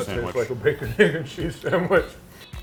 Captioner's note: laughing